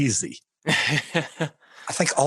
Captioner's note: laughing